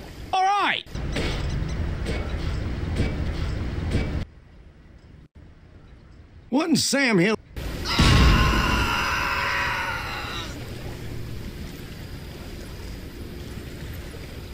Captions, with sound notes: Alright. What in sam hill- [scout screaming.mp3]